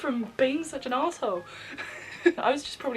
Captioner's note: laughs